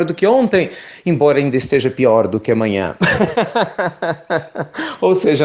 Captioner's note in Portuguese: Risos